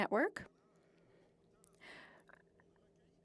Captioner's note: speaking French